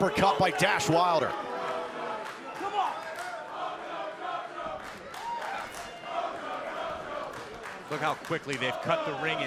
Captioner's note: crowd cheering